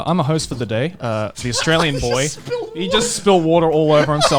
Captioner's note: laughs